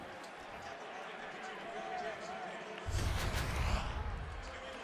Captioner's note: pa announcement